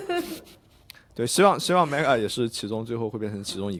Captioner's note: laughter